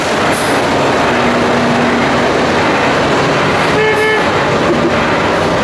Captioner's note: very loud pump and truck engine noises, truck horn beeps